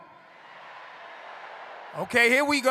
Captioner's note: crowd